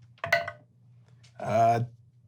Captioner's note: dice clacking